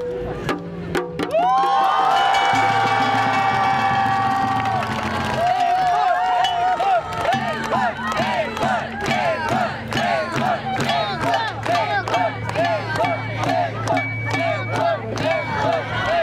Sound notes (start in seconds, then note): 0.9 crowd cheers